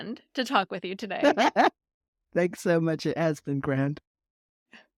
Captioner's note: laughing